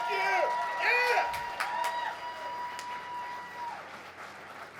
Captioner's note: crowd cheers